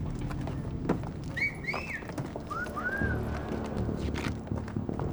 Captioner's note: men whistle; dramatic music